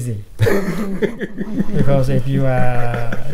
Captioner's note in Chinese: 笑声